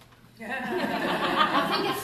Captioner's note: laughter